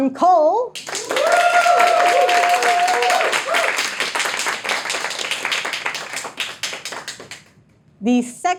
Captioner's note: audience applauding, cheering